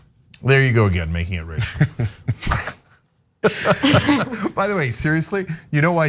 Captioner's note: laugh